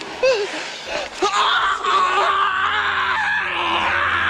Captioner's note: screaming